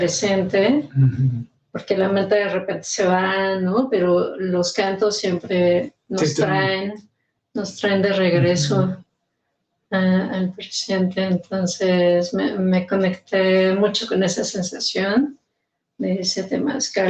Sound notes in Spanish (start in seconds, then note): 8.4 carraspeo